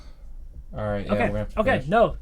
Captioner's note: sighs